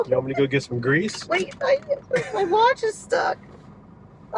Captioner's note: chuckling